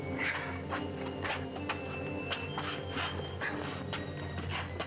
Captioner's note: feet scuffling